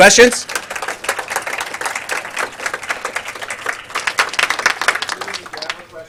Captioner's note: audience applause